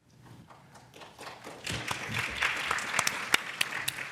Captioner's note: applause